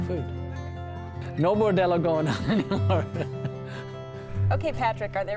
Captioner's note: laughing